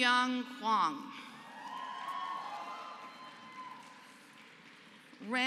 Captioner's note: applause